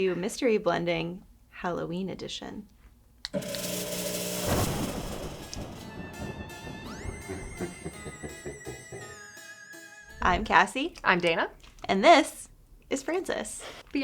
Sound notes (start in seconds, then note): 4.5 thunder clapping; 5.5 spooky music; 6.8 dark laughter